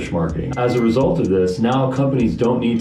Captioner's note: beep